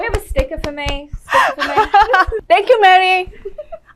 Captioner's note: laughs